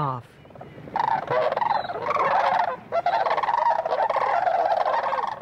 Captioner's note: birds squawking